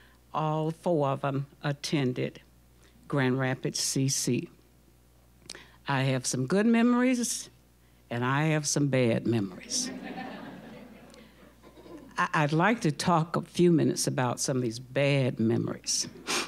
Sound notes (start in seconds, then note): 9.7 audience laughing